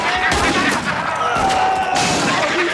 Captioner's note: gun fires; town member screams; Twister laughs